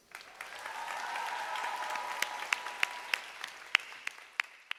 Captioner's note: audience applauding